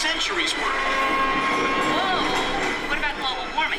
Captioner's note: train horn blares, says woah